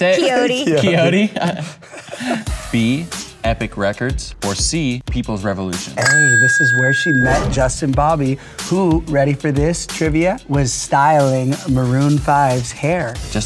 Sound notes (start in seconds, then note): 0.5 laughing